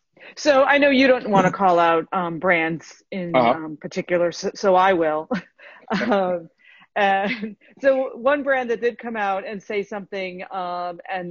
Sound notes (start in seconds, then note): 5.3 laughter